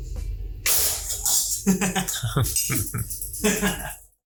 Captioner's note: laughs